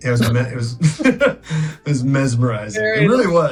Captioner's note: Oscar laughing